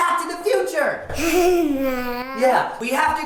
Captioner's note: giggling